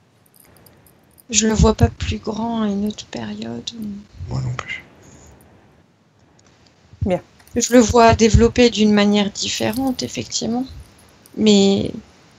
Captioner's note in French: respiration profonde